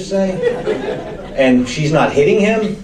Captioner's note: audience laughs